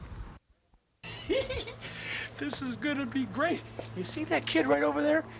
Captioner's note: chuckles